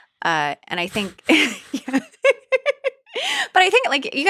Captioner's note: both chuckle